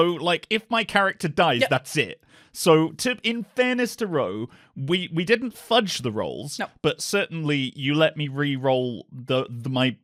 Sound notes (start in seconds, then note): none